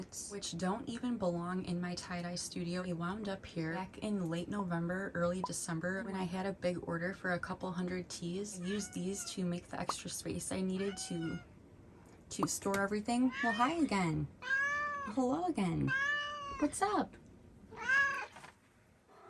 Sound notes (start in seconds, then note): 8.6 Bean meows; 11.3 Bean meows; 14.4 meows